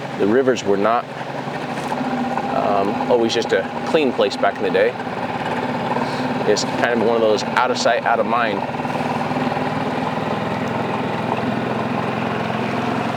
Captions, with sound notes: The rivers were not always just a clean place back in the day. It's kind of one of those out of sight, out of mind. (engine rumbling)